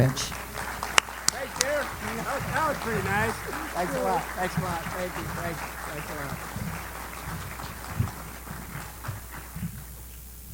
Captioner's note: applause